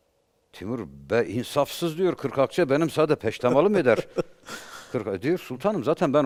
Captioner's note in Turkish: kahkaha